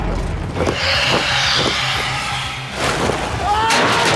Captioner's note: creature screeching; Eddie screaming